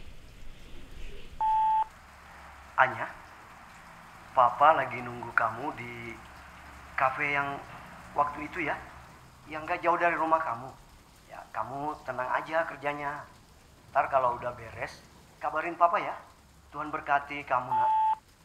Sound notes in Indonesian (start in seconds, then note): 1.4 Memutar pesan suara